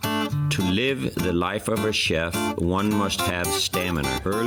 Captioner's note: radio